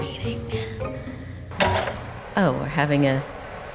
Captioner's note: pensive music; projector clicking